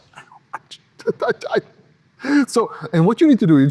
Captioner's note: laughing